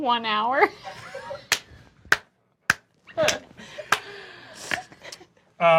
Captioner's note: laughs